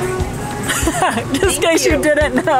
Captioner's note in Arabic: يضحك